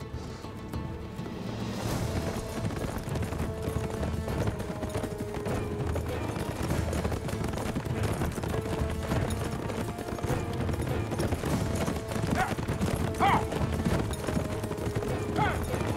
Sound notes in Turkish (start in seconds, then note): 0.1 Müzik - Gerilim; 7.1 At nalı sesleri